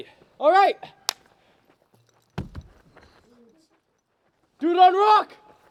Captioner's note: clapping